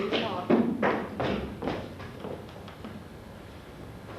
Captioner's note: footsteps